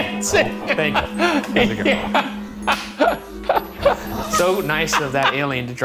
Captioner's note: Shane laughing